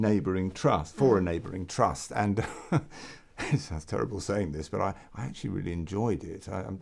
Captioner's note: laugh